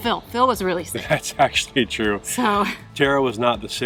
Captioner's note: laughing